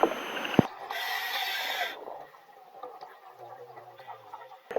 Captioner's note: equipment hissing